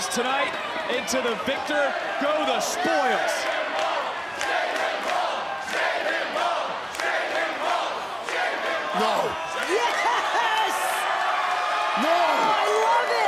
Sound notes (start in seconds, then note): 2.7 crowd chants; 11.2 laughs